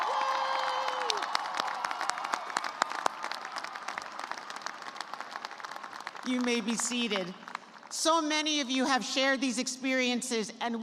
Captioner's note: cheers and applause